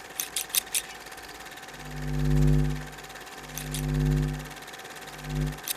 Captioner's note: camera reel rolling; scissors opening and closing